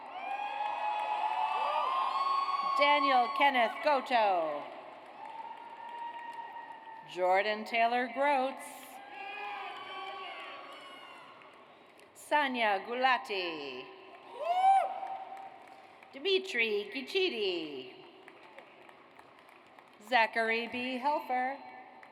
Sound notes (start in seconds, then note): 0.0 audience cheers; 4.4 audience applauds; 9.0 audience cheers; 14.2 audience cheers; 18.1 audience applauds